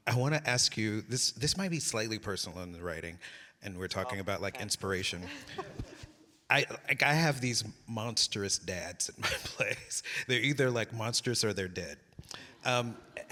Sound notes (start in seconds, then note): 5.2 laughing